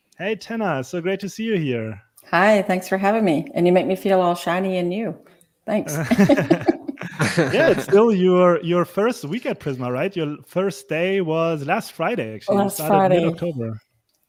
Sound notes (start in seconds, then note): 5.8 laughing